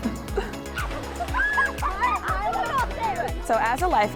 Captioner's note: children laughing and chattering